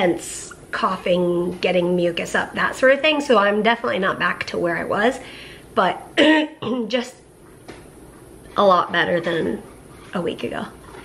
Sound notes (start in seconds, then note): 6.2 clears throat